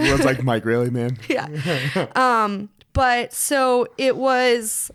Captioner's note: laughs